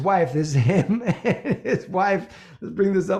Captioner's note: chuckles